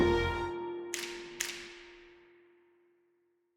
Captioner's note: dramatic music; fingers snapping